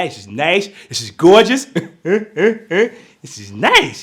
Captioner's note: laughing loudly